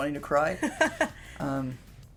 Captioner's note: laughter